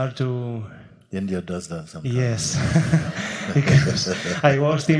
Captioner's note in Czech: smích